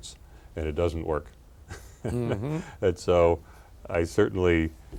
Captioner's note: laughs